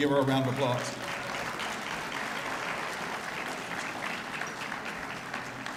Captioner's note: applause